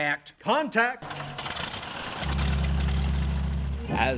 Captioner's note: engine sputtering